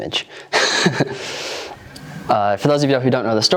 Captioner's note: laughs